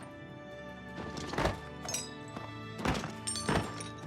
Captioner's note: glass clinking